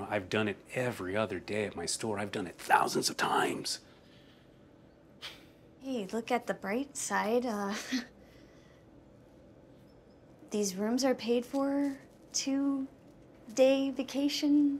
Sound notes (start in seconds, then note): 5.0 sighs; 9.3 chuckles